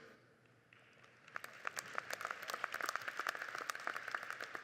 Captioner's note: audience applauding